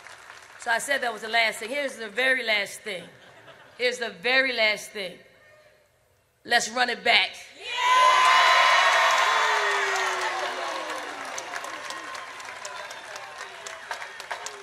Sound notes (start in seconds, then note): 11.2 cheers